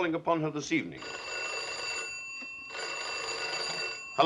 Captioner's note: phone rings